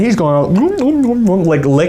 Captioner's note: making licking sounds